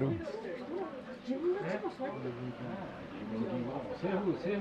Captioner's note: people talking, plates rattling